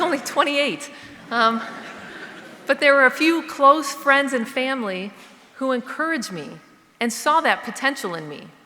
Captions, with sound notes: I was only 28, (audience laughing) but there were a few close friends and family who encouraged me and saw that potential in me.